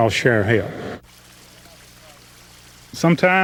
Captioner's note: water trickling